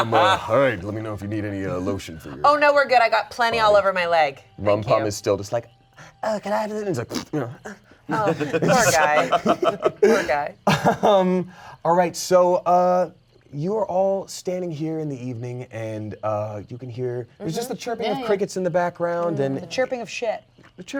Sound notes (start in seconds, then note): 7.0 blows raspberry; 7.9 gasps; 8.0 laughing; 10.7 laughs